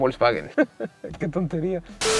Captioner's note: laughs